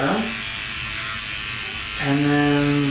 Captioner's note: pen buzzes